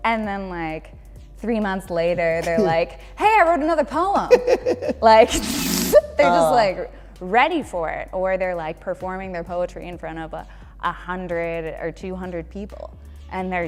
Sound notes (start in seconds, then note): 4.1 laughter